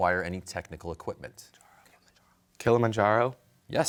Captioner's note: whispering